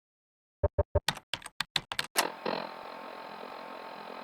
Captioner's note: clicking